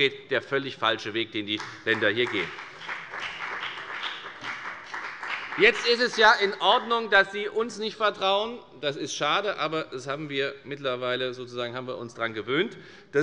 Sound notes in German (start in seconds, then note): 1.5 Beifall bei der FDP